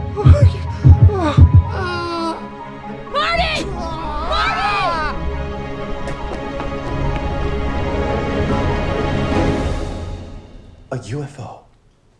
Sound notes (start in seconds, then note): 0.0 suspenseful foreboding music; 3.1 groans; 3.1 Marty screams; 5.3 tense music